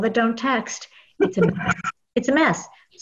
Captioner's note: laugh